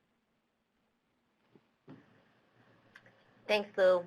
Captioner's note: silence